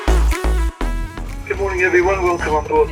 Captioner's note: loudspeaker